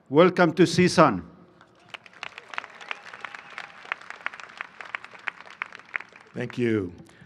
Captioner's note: applause